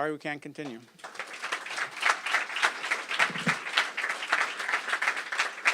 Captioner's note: applause